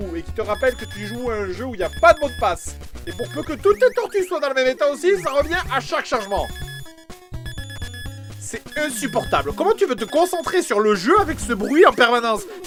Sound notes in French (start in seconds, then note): 6.3 bruit strident